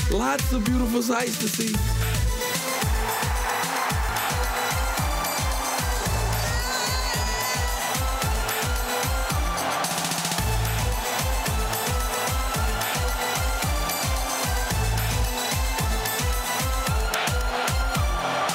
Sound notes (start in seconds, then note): 2.8 crowd cheering; 5.5 dance hall music continues; 6.7 shouting; 9.9 dance hall music continues